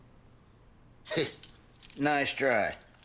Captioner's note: chuckles